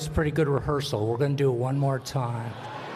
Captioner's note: laughter